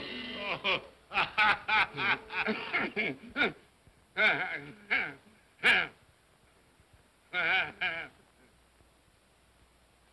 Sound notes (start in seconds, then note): 1.1 spirit laughs; 2.3 Scrooge grunts; 7.3 Scrooge laughs